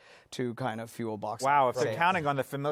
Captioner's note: laughing